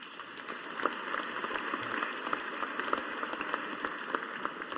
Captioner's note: audience applauding